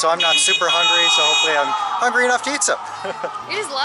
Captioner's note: laughter